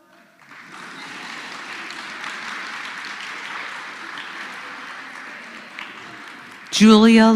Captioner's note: applause